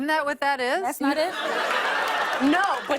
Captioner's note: laughter